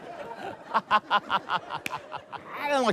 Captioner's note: laughs